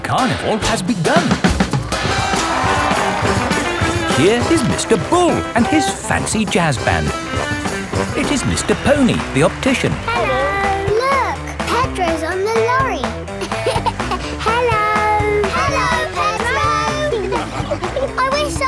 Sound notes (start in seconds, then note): 2.6 jazz music playing; 13.7 laughing